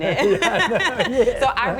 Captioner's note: laugh